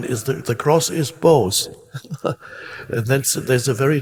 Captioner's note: chuckles